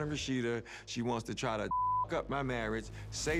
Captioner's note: beep